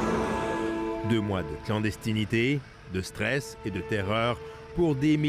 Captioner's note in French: klaxons